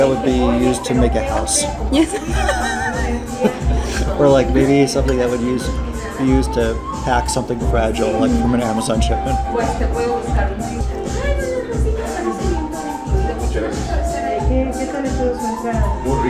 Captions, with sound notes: that would be used to make a house. - Yes. (laughs) - Or like maybe something that would use, be used to pack something fragile, like from an Amazon shipment.